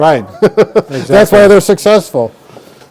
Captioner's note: laughing